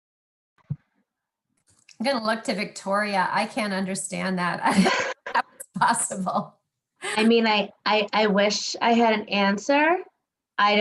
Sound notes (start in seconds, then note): 4.6 laughs